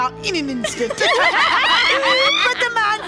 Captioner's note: all laughing